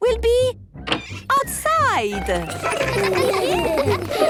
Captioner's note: laughter